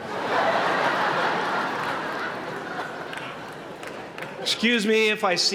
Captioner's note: laughter